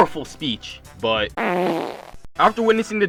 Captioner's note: blows raspberry